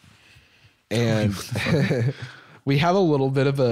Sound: laughs

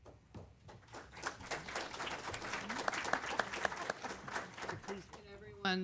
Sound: applause

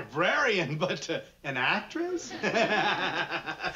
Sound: laughs

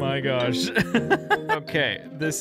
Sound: laughs

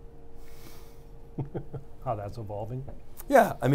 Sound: laughs

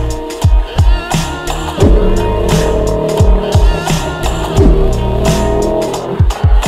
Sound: crocodile Sound

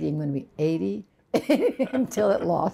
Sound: laughter

